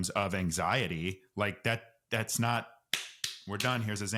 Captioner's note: claps hands